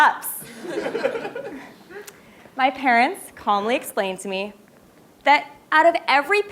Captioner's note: laugh